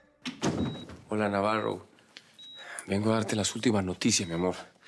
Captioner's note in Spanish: Sonido de los monitores; Sonido al abrir la puerta